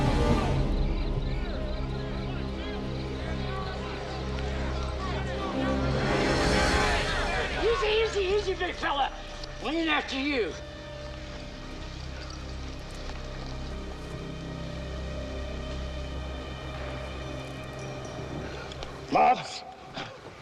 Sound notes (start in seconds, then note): 1.3 tense music relaxes; 6.0 posse hollering